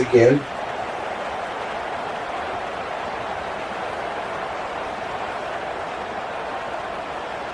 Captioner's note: crowd Noises